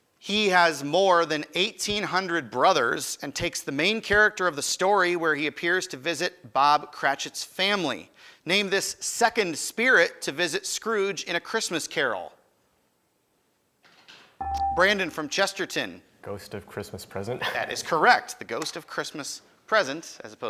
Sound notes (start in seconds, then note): 14.4 buzzer chimes